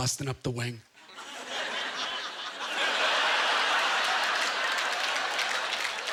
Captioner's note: audience laughter